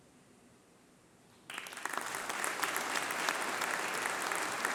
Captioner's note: applause